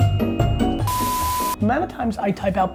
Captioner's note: beep